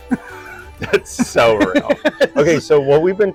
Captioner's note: laughing